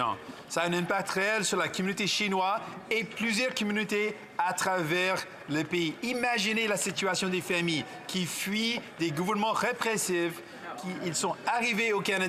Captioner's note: speaking French